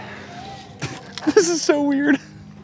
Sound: laughs

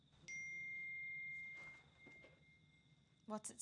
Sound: phone pings

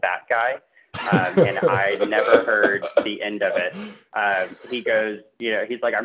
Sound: laughs

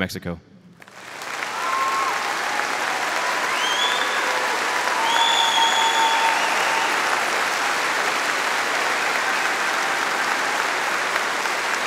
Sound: audience applauding

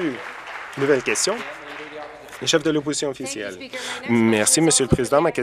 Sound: applause

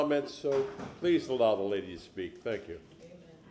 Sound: sounding gavel

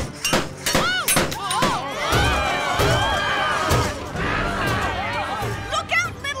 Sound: crowd screams

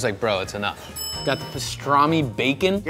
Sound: bell dings

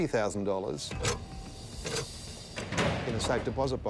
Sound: safe latches clicking

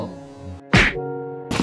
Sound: thwack

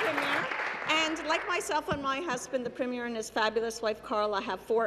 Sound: applause

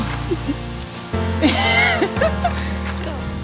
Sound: laughter

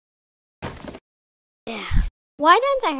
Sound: sigh

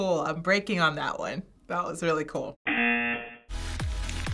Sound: buzzer; upbeat music

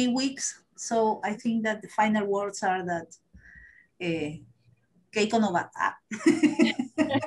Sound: speaking spanish

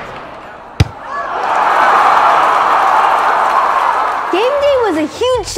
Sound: crowd cheers; ball thumps

